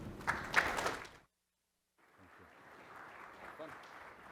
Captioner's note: audience clapping